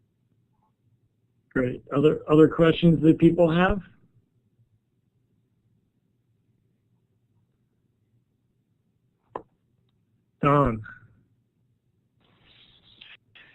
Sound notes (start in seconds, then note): 4.1 silence